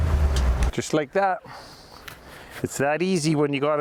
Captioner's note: engine revs